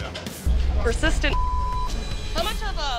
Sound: beep

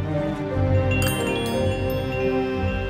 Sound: bell sounds

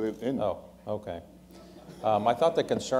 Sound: laughter

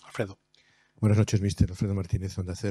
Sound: speaking spanish

